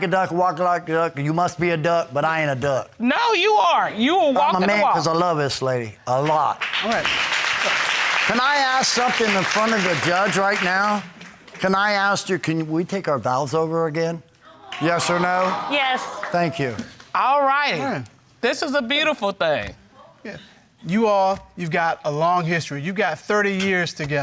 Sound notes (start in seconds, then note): 8.4 audience clapping